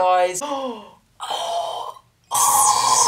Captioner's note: gasps